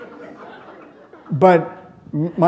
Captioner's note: laughter